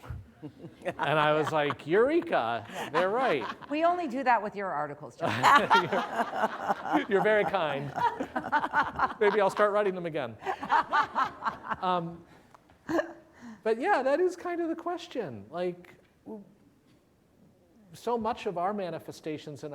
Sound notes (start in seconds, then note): 0.3 laughter; 5.2 laughter